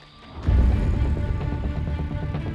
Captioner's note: horses galloping